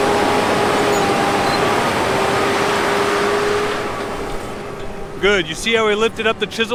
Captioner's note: tractor sound